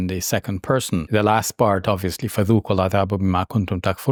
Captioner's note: speaking Arabic